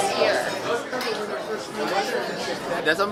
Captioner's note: all chattering